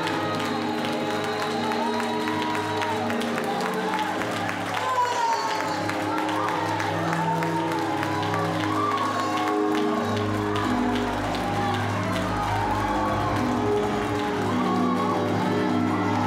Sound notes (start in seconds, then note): 4.8 applause, cheers; 8.4 music, singing